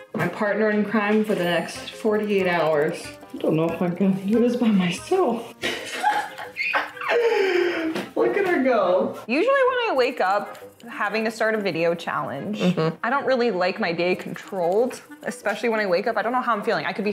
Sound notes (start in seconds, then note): 5.6 laughing